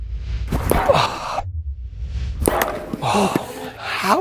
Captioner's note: ball clacking